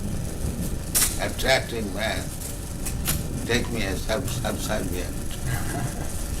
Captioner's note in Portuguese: risos